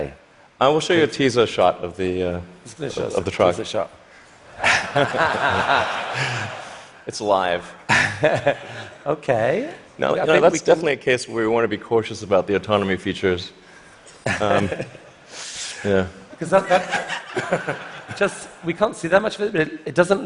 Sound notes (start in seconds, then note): 4.6 laughter; 16.5 laughter